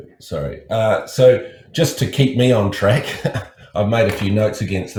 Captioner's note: laughs